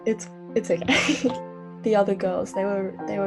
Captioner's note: giggles